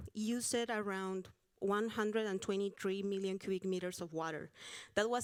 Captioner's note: none